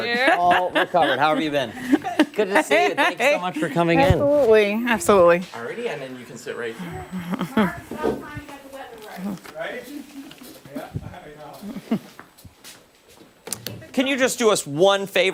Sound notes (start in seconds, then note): 4.7 laughter